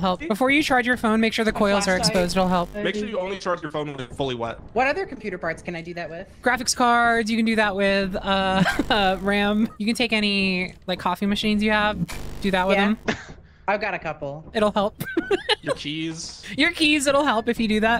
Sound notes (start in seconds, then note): 8.4 laughs; 15.0 laughs